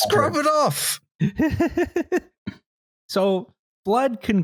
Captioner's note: laughs